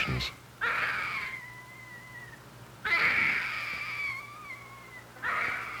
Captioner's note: baby crying; baby crying